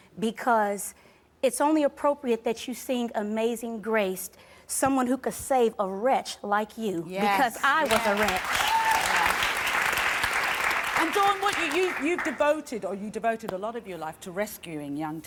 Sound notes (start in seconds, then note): 9.9 applause